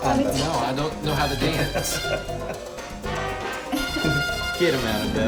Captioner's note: Manny laughing